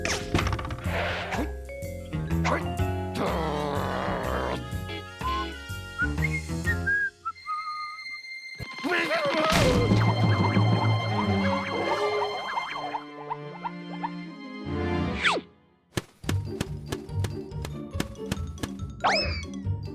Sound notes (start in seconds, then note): 1.3 grumbles; 3.2 growls; 5.9 whistles; 8.7 shouting